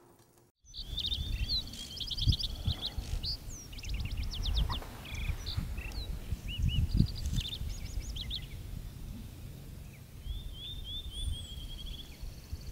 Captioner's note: old film projector; birds chirping and wind rustling